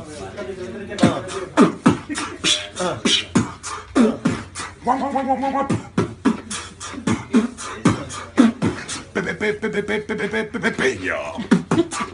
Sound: beatboxing

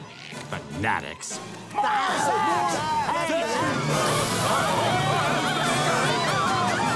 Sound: yelling

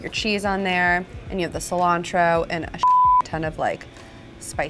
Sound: beep

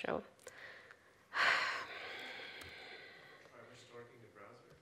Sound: sighs

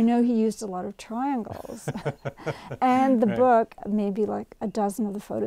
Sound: laughs

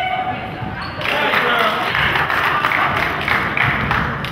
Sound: crowd claps

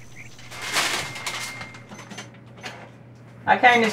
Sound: rustling paper

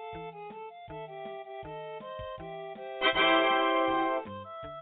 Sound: Windows 95 "tada!" noise

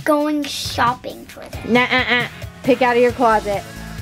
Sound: makes sound of disapproval

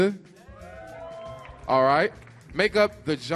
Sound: audience cheers

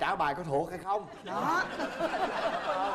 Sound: laughing

